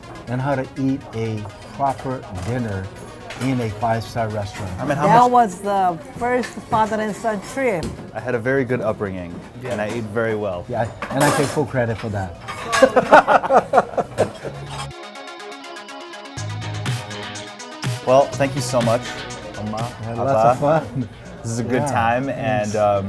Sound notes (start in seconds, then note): 12.6 laughter